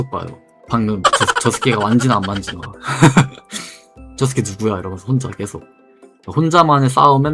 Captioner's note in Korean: 웃음